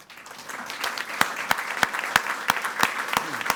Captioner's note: all applauding